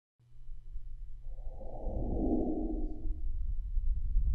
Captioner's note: whoosh